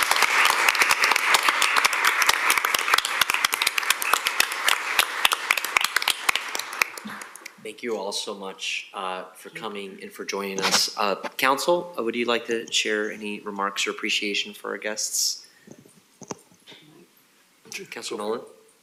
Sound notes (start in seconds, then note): 6.1 applause